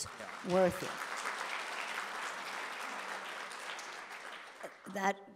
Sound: audience applauding

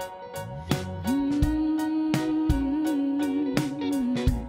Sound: humming

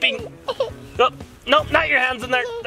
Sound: laughs

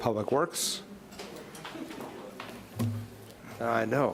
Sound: overlapping quiet chatter

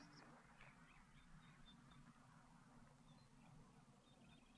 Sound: birds softly chirping

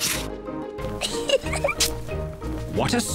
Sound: giggles

